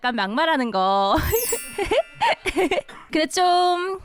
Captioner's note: laughter